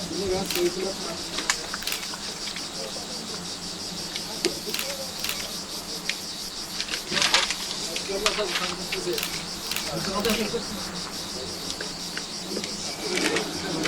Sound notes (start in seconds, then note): 1.6 camera shutters clicking; 7.0 man speaking foreign language